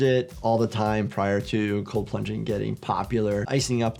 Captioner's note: none